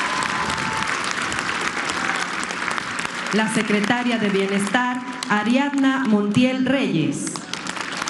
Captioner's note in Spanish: aplausos